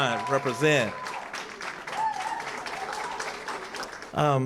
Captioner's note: cheering & applause